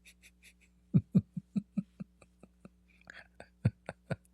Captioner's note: Ketawa